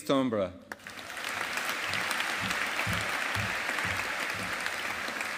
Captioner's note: audience applauding